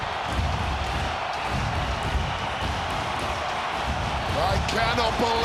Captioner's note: crowd cheers; upbeat music